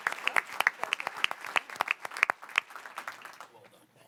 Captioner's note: applause